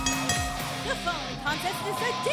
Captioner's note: bell ringing